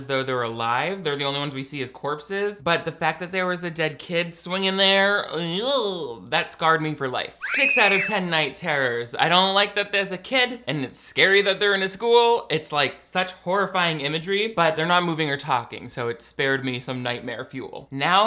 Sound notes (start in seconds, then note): 7.4 eerie screaming